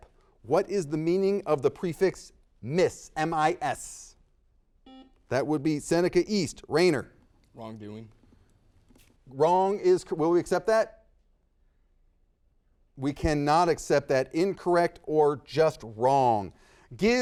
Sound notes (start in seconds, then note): 4.8 buzzer dings